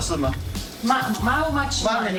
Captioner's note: speaking in native language